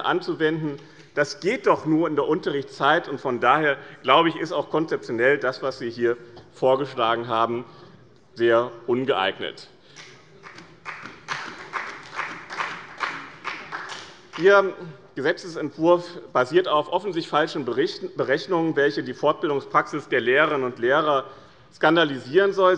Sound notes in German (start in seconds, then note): 10.4 Beifall bei dem BÜNDNIS 90/DIE GRÜNEN und der CDU